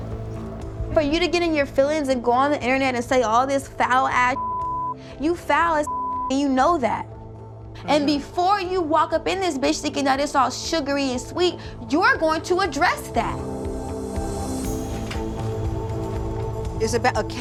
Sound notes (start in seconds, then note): 5.8 beep; 14.6 suspenseful music